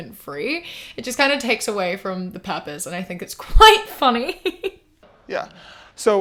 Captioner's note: laughs